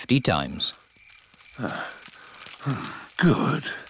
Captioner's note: panting